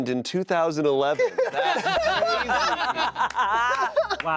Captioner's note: laughter